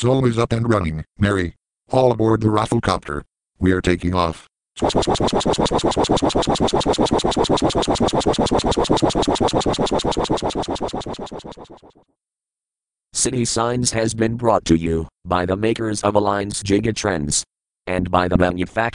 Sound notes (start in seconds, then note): 4.8 "soi" sound